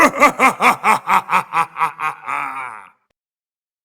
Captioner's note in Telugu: నవ్వు